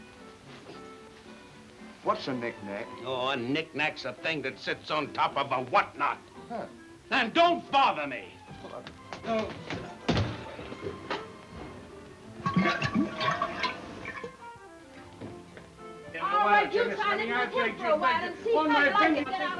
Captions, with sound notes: - What's a knickknack? - Oh, a knickknack's thing that sits on top of a whatnot. - Huh. - And don't bother me! (water gurgling) (both chattering)